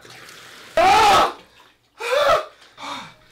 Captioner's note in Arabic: صراخ